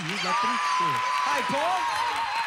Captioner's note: audience applauding